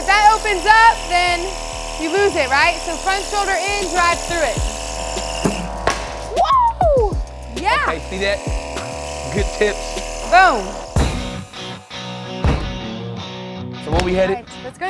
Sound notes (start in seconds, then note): 5.8 ball smacks loudly; 11.3 country music